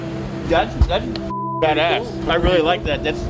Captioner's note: beep